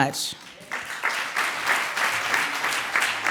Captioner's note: clapping